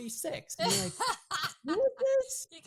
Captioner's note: laughing